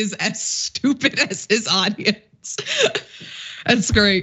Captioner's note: laugh